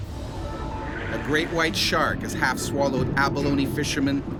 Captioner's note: voiceover